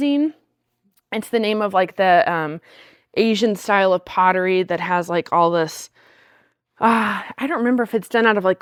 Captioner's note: sighs and gasps